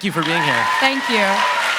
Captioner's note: cheers and applause; applause